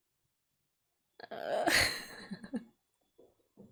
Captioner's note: laughs